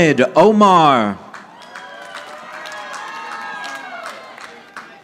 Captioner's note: audience applauding